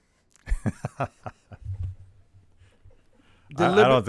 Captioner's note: laughing